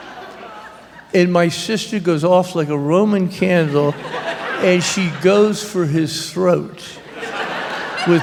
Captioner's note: laughter; laughter